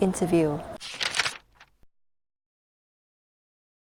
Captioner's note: shuffling